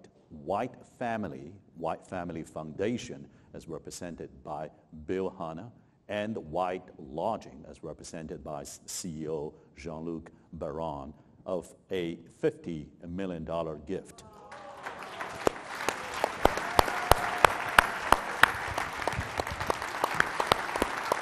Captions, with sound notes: White Family, White Family Foundation— as represented by Bill Hanna— and White Lodging—as represented by CEO Jean-Luc Barone—of a $50 million gift. (audience applauding and whooping)